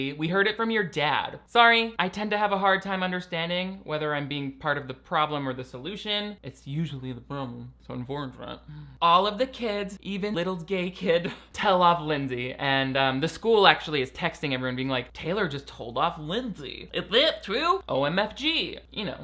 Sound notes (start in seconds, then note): none